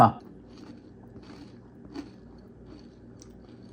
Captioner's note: crunching